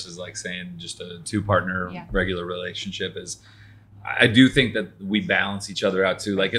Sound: none

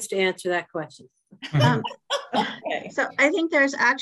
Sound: laughter

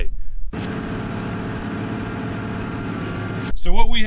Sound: tractor sound

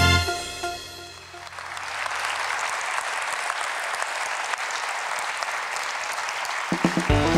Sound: applause

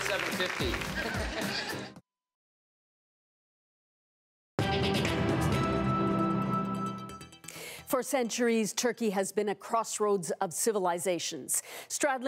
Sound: laughs

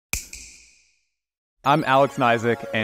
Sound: snap

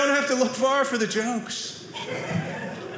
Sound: audience laughing

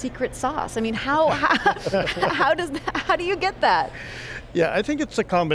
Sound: laughs

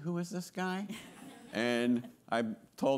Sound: attendees laughing

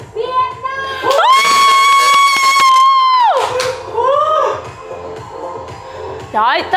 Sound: screaming

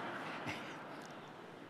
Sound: laughter

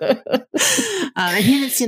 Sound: hearty laugh

